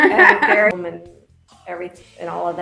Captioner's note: laughing